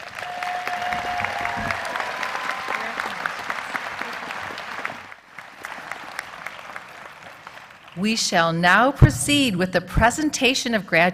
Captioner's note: applause